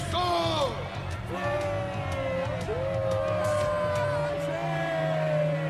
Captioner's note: crowd cheering